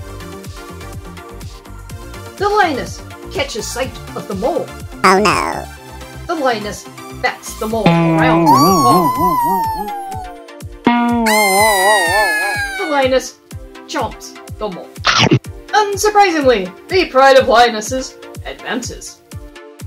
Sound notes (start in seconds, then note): 11.0 boiiinnng!!